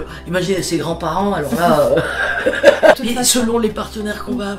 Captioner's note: laughter